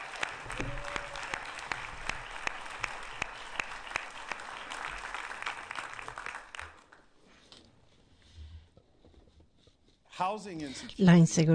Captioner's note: applause